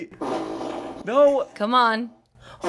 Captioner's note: fart machine farts